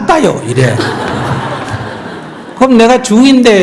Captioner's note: audience Laughter